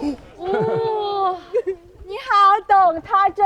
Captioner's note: laughter and sobs